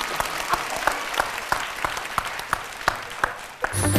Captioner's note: laughing & Clapping